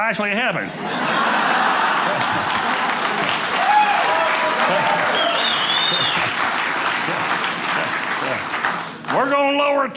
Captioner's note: audience applauding